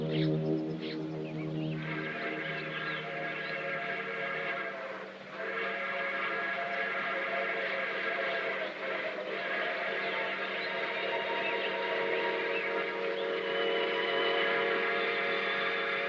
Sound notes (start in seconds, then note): 2.1 train Whistle Blows, Distant